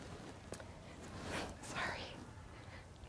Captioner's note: whispers